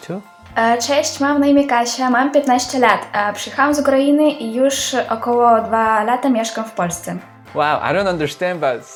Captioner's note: Introducing herself in Polish